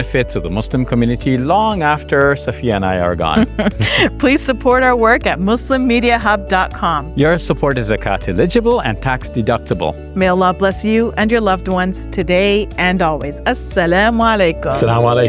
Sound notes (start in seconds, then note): 3.3 chuckles